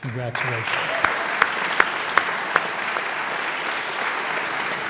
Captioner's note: audience applauds